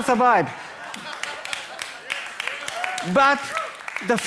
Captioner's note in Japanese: 笑いと拍手